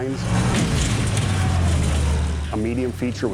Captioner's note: combines crashing together